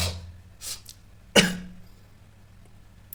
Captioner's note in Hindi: नाक से की जाने वाली आवाज़